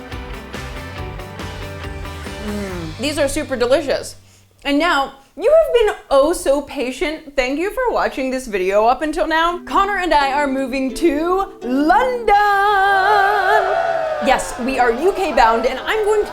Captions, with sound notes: These are super delicious. And now, you have been oh so patient! Thank you for watching this video up until now. Connor and I are moving to LONDON! *crowd cheering* Yes, we are UK- bound and i'm going to